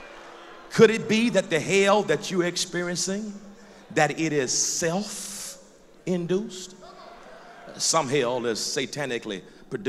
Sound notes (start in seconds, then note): 0.0 loud applause; 6.8 loud crowd encouragement